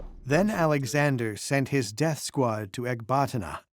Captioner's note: in German